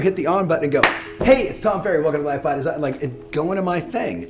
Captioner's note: claps